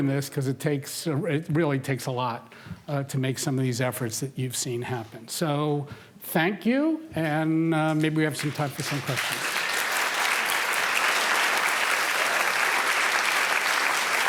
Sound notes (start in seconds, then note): 9.6 applause